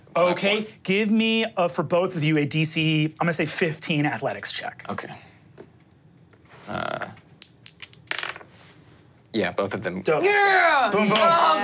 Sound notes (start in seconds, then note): 7.4 dice tapping table; 11.1 claps